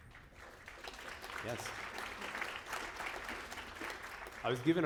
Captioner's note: applause